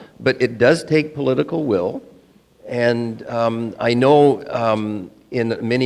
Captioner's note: none